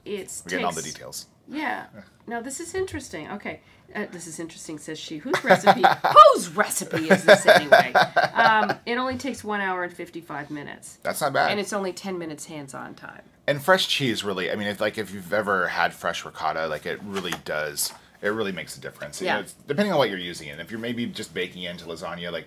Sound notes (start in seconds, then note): 6.8 laughs